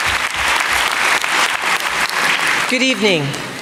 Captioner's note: applause